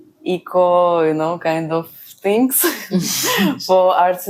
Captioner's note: laughs